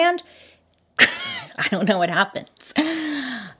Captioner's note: snickers